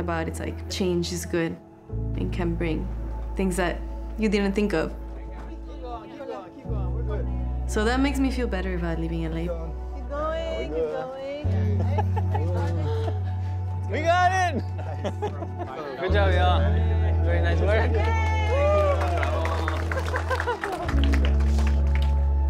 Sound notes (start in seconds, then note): 11.6 indistinct chatter, laughter; 17.6 cheering and applause